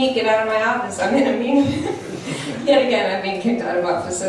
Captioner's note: laughs